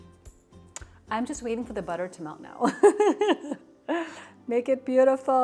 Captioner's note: laughs